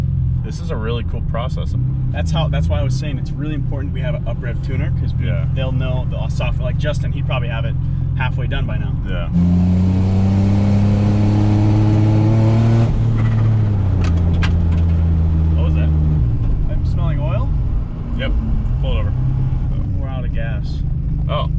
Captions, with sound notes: - This is a really cool process. - That's why I was saying it's really important we have a uprev tuner, - Yeah. - 'Cause they'll know the old software, like Justin, he'd probably have it half way done by now. (car engine roaring) (clanking) - What was that? - Am I smelling oil? - Yep, pull over. - We're out of gas. - Oh.